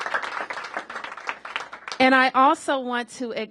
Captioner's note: applause